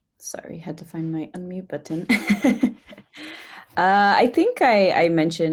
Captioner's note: chuckles